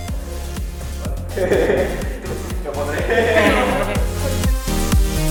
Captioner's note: laughter